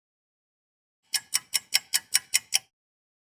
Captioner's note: sound of a ticking clock